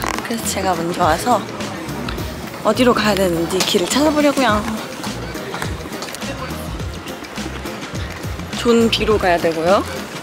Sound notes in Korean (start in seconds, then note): 6.0 다급한 발걸음